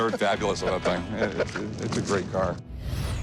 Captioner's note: chuckles